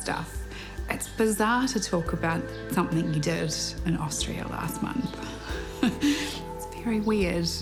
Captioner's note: chuckles